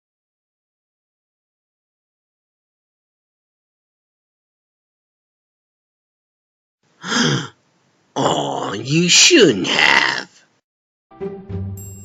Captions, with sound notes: (gasps) AAWW YOU SHOULDN'T HAVE.